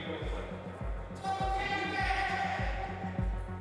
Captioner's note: indistinct shouting